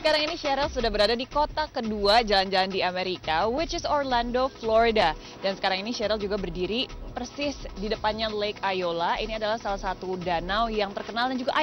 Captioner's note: non-english speech